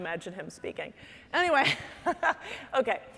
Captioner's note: laughing